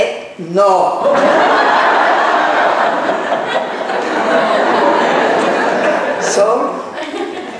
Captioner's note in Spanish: laughs